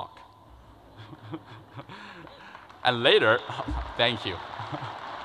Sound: laughter; crowd applauds

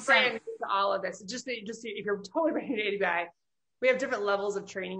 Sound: faintly speaking

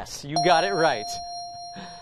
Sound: ding

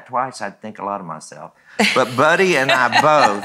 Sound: laughs

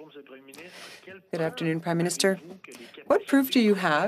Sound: speaking French

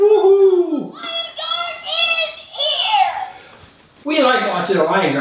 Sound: toy talking

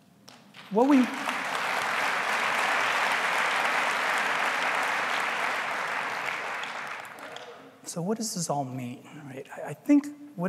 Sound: applause

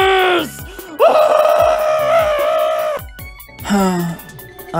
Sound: omori mating call; sigh

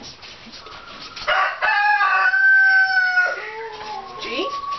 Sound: crowing

